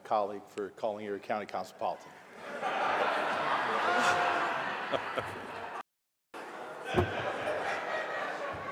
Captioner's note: laughter